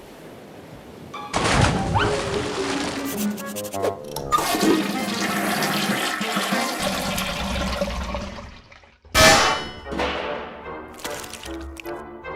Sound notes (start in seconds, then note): none